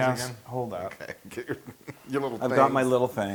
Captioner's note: laugh